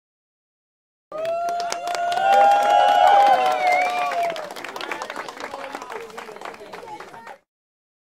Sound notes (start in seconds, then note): 1.2 sound of crowd